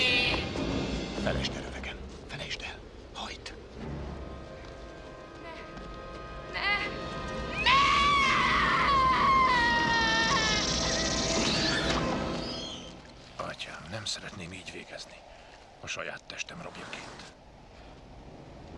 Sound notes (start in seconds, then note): 7.4 screams